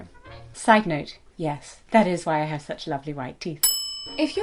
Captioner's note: ding